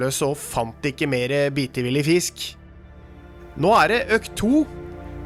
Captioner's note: none